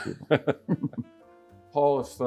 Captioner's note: chuckling